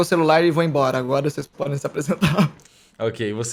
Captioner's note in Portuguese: risos